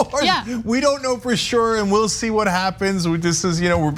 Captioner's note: laugh